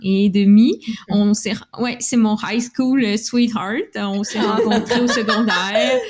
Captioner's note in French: Rires